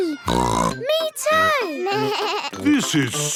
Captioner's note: bleating; snorts